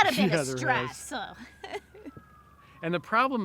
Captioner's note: giggles